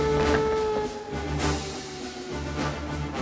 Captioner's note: alarm Continues